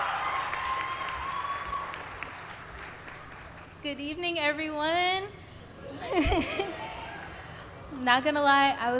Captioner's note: applause